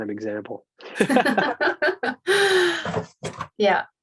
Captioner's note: both laughing